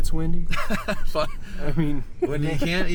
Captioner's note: laughing